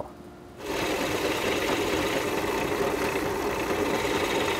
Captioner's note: tool rattling